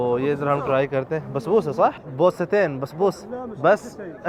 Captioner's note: Arabic